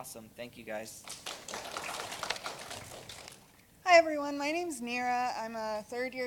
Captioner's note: applause